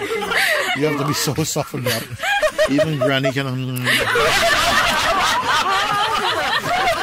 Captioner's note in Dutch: gelach